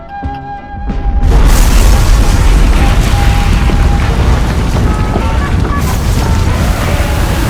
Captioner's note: nuke goes off causing total chaos